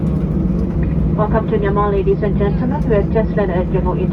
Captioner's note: cabin crew on PA, speaking English